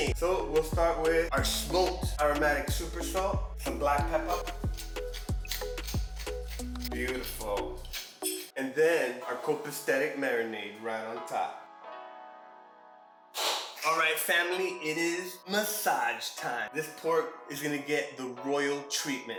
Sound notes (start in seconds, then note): 4.0 black Pepper grinding; 7.8 black Pepper grinding contiunes; 13.4 clap and Snap